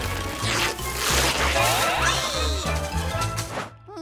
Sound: ripping; straining

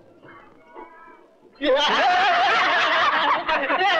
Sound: laughing

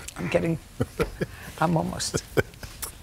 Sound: chuckles

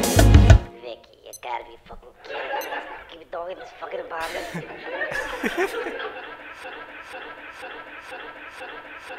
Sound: TV audio

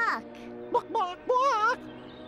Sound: squawking

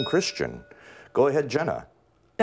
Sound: bell rings

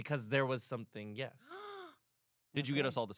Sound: gaps

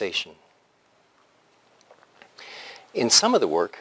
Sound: pause

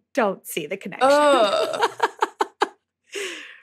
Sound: giggles

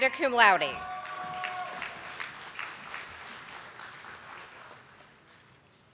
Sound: audience applauding

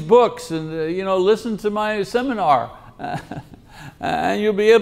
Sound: laughs

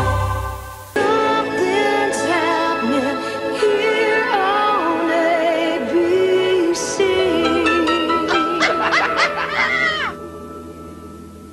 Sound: woman laughing

